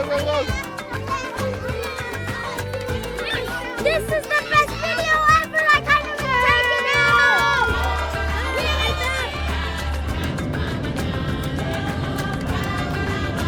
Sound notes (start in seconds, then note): 0.1 upbeat music; 6.2 kids chattering; 10.8 upbeat music